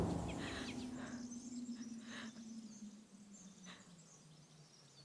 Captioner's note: birds and forest sounds